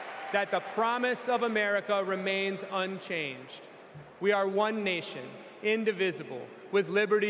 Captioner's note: cheers and applause